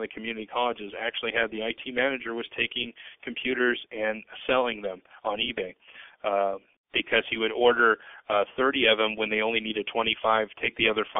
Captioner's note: speaking rapidly